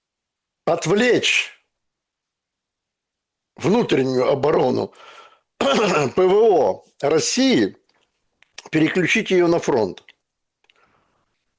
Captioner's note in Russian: откашливается